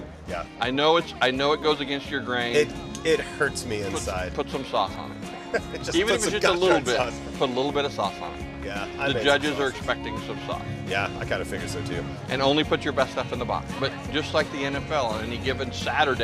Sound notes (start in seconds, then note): 5.4 laughing